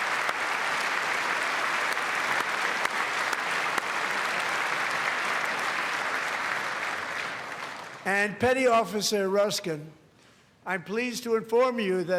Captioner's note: applause; cheers; applause